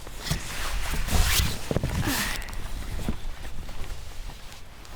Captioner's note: sigh